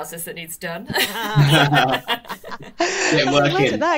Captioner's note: all laugh